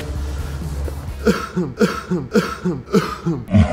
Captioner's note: coughs